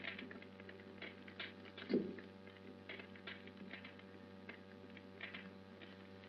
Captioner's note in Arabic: تتطاير النار